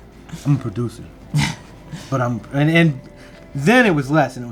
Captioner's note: laughs